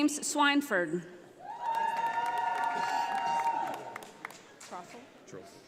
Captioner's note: audience applauding